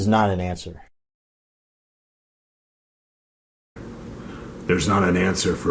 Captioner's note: silence